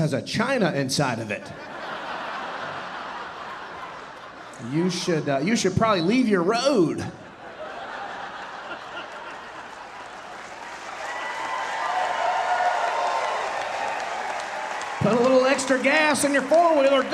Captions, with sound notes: has a China inside of it. (audience laughing) You should probably leave your road, (audience laughing, cheering and applauding) put a little extra gas in your four wheeler,